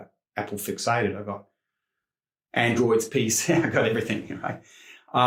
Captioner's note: chuckles